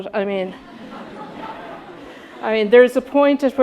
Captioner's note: audience laughing